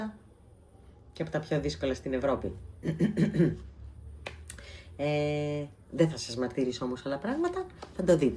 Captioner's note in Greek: γέλια